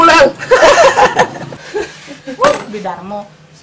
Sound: laughs

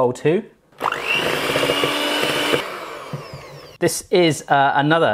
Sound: mixer whirs

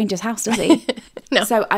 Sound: laughing

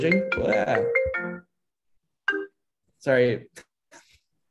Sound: phone rings

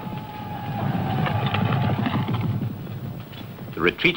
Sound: horse hooves thumping; men yelling

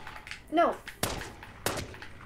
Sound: gunfire

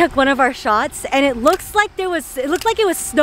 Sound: camera clicking

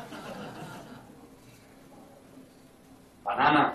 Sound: audience laughing

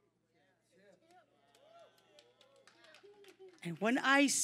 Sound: audience cheering

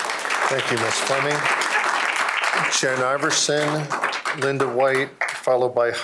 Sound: applause

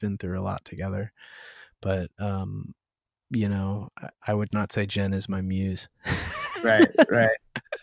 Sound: laughter

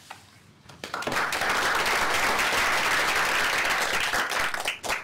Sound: applause

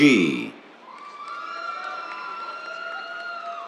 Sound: cheers, applause

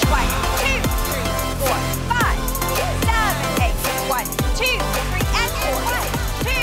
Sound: coach counting in the background; upbeat music

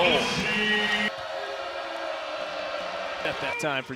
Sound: fans booing

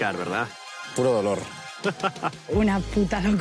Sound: evil laugh

